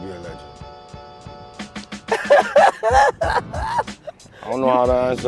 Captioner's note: laughing